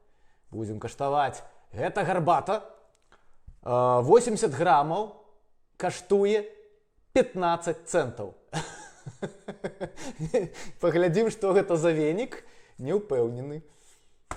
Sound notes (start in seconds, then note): 8.6 laughs